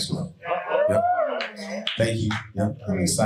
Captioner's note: audience cheering and applauding